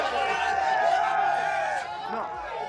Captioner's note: crowd cheers